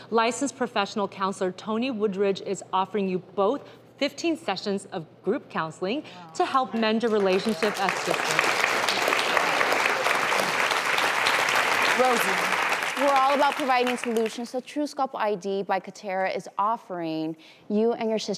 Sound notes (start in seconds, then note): 8.9 audience claps